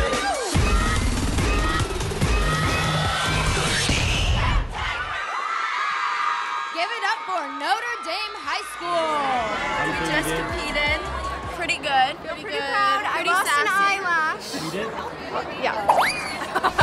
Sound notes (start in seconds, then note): 0.4 music intensifies; 4.3 cheers